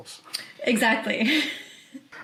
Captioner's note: chuckles